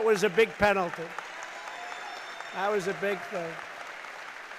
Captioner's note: applause